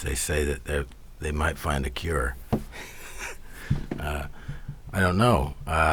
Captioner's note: laughs